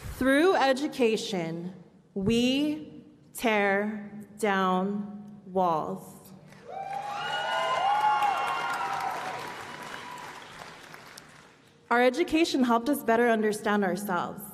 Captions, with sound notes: Through education, we tear down walls. [ Applause and Cheering ] Our education helped us better understand ourselves.